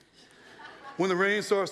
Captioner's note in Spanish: risas de la audiencia